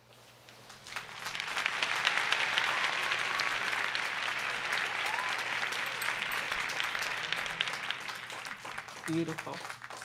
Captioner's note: applause